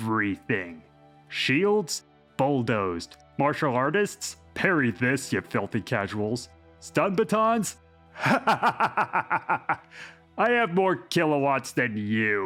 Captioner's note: laughs in amusement